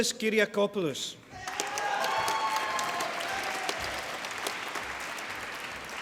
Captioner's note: applause